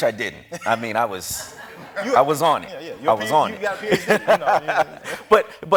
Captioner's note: laughs